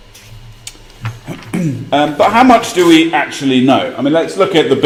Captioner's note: cough